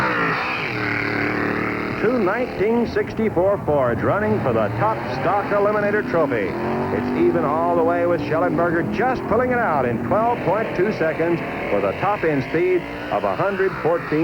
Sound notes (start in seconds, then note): 3.9 engines roaring